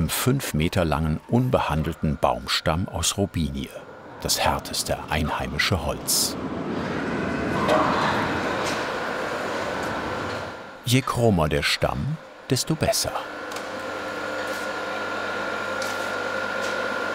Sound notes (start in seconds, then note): 15.0 machine whirring